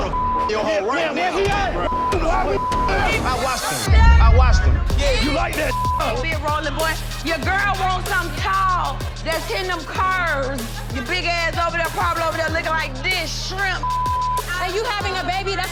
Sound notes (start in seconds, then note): 0.0 beep; 2.2 yelling; 5.5 beep; 13.8 beep